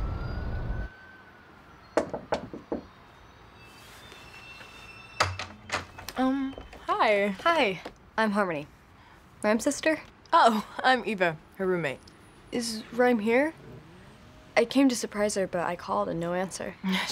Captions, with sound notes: (Harmony knocks) - Um, hi. - Hi, I'm Harmony. Rhyme's sister. - Oh, I'm Eva, her roommate. - Is Rhyme here? I came to surprise her, but I called and no answer.